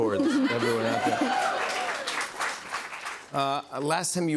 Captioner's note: cheers and applause